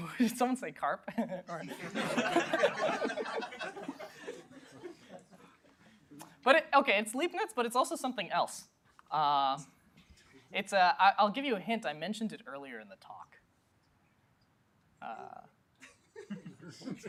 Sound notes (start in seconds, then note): 1.1 laughter